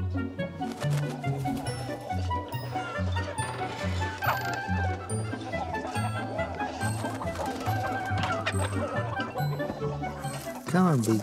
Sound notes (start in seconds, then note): 0.1 upbeat music; 2.6 chickens clucking